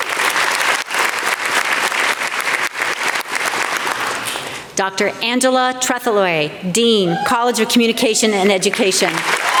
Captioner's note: applause